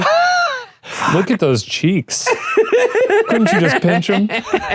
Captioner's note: laughing